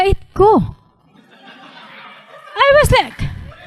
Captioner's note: audience laughing